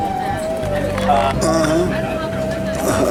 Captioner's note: chattering on the bus